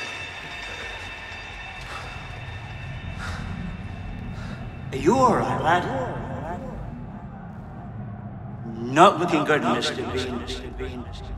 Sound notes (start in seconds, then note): 1.7 panting